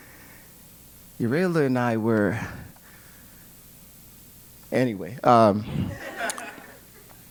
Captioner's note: laugh